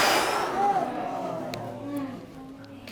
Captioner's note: exhales